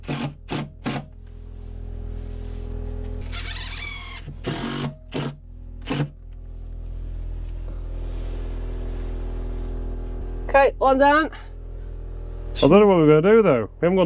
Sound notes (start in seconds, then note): 5.8 drilling